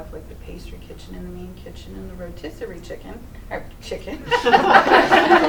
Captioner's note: laughter